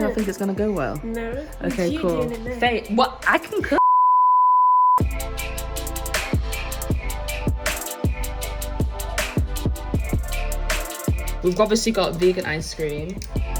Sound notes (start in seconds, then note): 3.8 beeping; 5.2 upbeat music